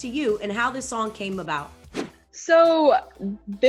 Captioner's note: scene whooshing